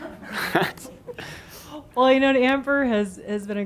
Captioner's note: chuckling